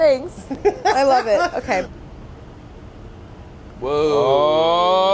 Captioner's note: laughs